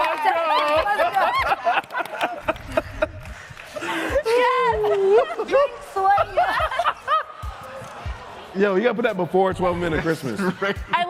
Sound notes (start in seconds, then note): 4.5 laughter